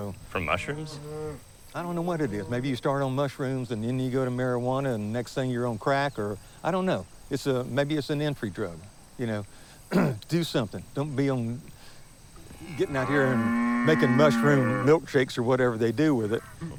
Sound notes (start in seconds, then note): 9.9 clears throat